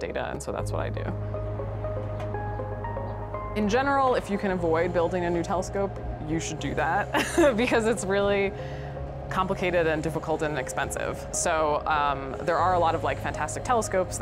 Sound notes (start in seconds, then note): 1.7 soft music; 7.1 laughs